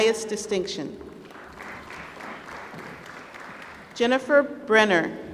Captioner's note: applause